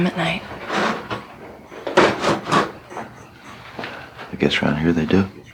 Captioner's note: pots rattling